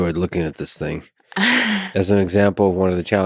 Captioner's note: laughs